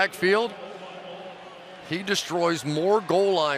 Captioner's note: pa announcement